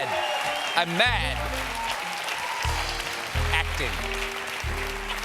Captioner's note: cheers and applause